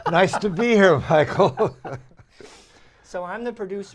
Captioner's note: laughter